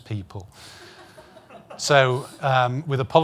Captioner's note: audience laughing